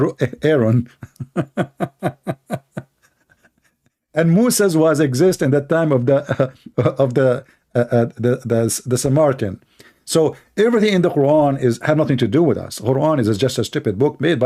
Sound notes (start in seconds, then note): 0.7 Ketawa